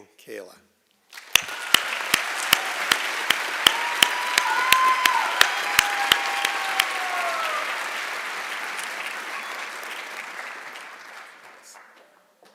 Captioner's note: applause and Cheering